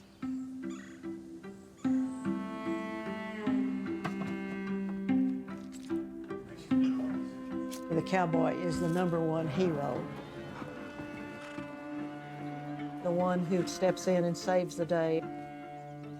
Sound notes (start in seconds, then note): 0.0 birds singing; 0.2 gentle orchestral music; 6.3 people murmuring; 7.2 blade scraping